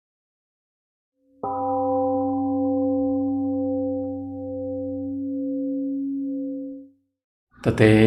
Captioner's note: temple gong rings and fades